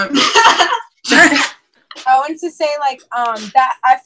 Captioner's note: laughter